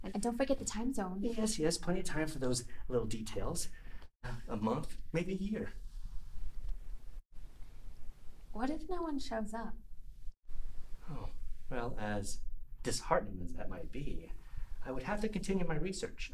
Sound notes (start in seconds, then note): none